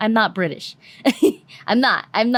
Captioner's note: laugh